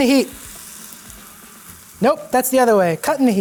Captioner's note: pan sizzling